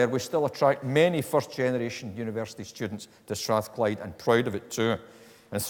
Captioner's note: none